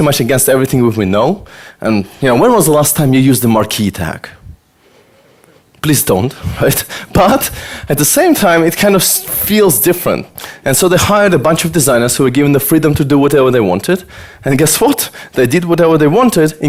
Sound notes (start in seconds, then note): 6.7 laughs